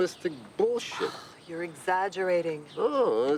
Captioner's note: sighs